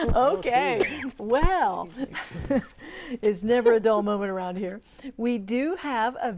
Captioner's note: laughing